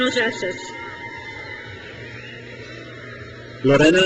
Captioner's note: crowd cheers